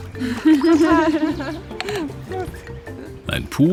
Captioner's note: laughs